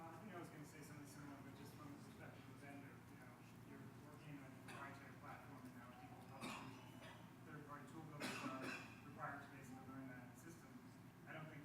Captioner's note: coughing